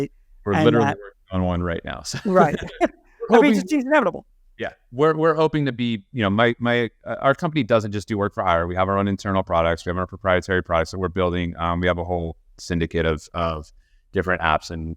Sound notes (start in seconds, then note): 2.1 chuckles; 2.2 laughs